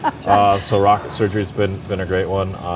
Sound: laughs

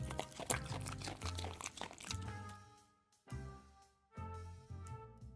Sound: dog chewing and licking noise

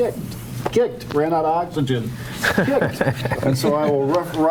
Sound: people chuckling

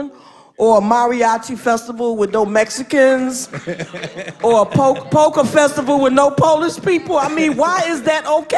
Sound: laughter; laughter

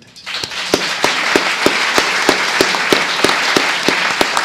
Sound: audience applauds

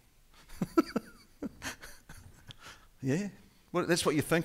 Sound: laughing

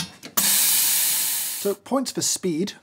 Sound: steam hissing

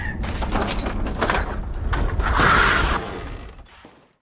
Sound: tire screeches

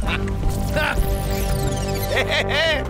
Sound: evil laugh; futuristic bleeping

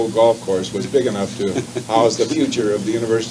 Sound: chuckles

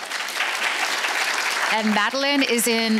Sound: audience applauds

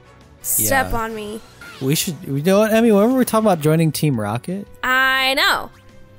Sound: none

